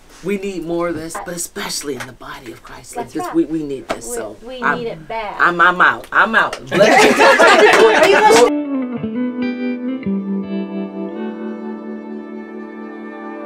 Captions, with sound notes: we need more of this, but especially in the body of Christ. - That's right. - 'Cause we need this, so- - We need it bad. - I'm out. I'm out. (crowd laughing) (gentle music)